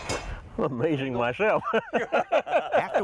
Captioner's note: laughs